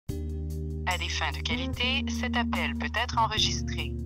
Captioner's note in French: voix enregistrée